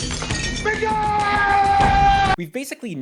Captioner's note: yelling